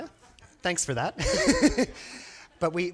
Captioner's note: laughs